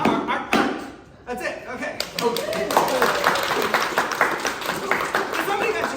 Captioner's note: applause